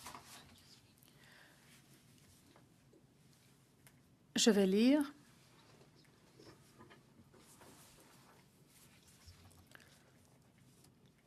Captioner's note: speaking French